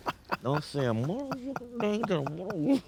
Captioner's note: muffles and laughing